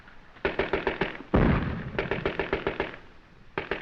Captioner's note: gun firing